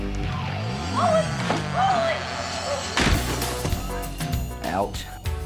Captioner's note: thuds